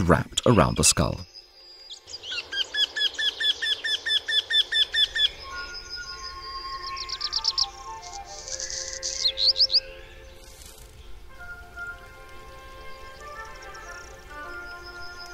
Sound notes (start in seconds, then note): 1.3 sounds of nature; 5.3 music, sounds of nature